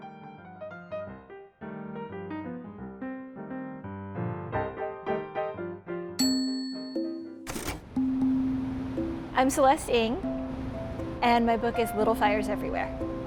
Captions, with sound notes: (buoyant piano music) (bell rings) (typewriter rattles) - I'm Celeste Ng and my book is "Little Fires Everywhere."